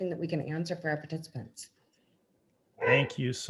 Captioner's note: dog barks